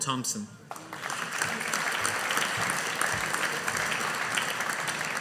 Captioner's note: audience applauding